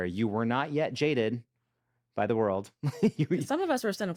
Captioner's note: chuckles